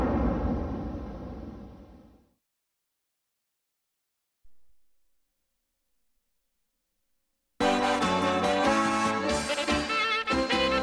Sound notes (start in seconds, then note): 4.5 silence; 7.6 jazzy music playing